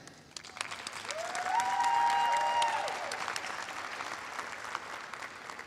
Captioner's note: applause